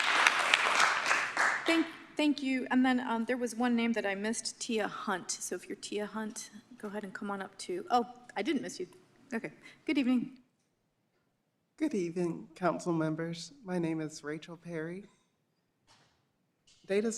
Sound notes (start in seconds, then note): 0.0 applause